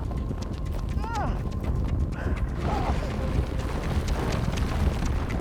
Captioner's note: Larry groaning